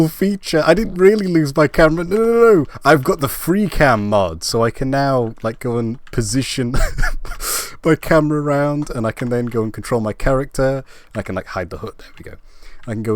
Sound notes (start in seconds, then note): 6.7 laugh